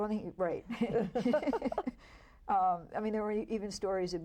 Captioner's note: all laugh